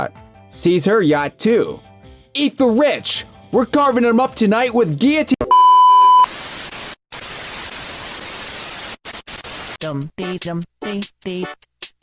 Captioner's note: beeping and static